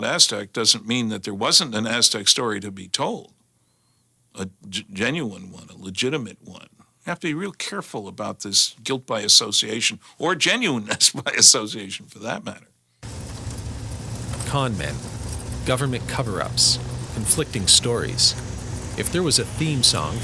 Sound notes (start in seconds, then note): 10.8 chuckles; 13.1 slow dramatic music